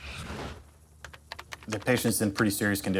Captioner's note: keys typing